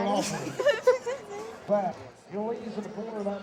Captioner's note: laughing